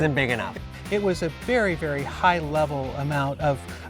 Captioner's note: chuckles